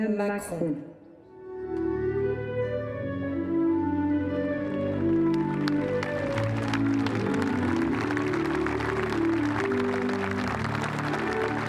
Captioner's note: applause; speaking french